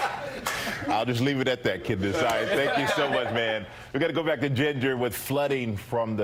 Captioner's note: laughter